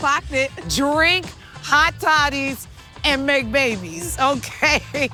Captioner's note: laughing